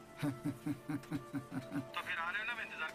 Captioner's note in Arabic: ضحك